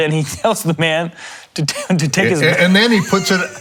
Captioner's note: laughs